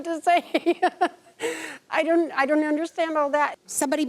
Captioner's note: chuckles